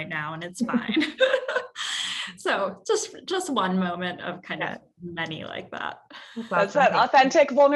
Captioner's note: laugh